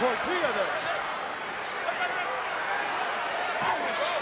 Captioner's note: crowd yelling